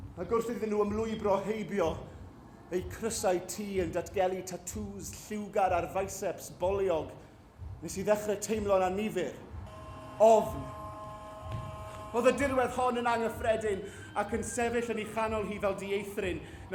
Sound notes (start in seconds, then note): 9.6 ambulance siren